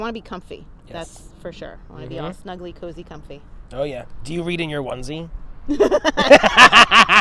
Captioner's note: laugh